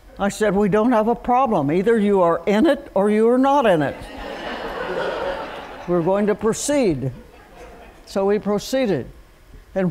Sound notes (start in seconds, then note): 3.9 laughter